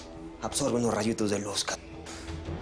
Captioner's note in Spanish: Inhala